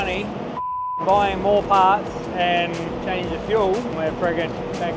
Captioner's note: beep